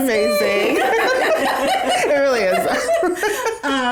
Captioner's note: all laugh